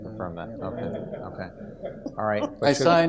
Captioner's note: audience laughs